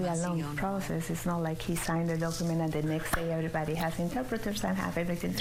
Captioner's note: speaking spanish